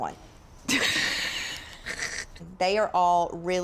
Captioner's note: laughs